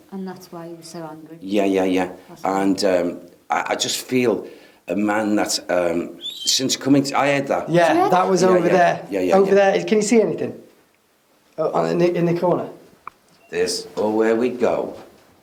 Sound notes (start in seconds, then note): 6.2 whistling